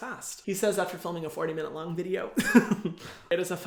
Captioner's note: laughs